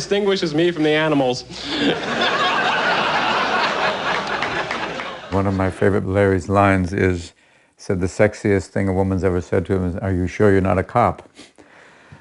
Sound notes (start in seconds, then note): 1.5 laughter